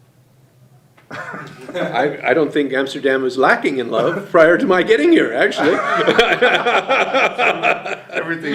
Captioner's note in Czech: smích